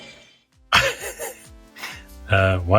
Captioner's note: laughs